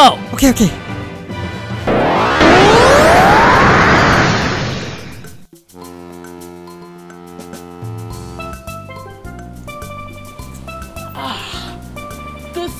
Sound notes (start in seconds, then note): 1.8 teleporting sounds; 5.8 cruise ship horn blowing; 11.0 relaxed sigh